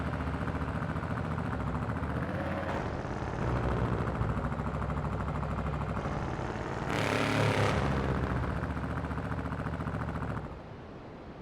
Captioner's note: engine revving